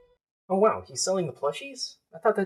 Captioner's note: beep beep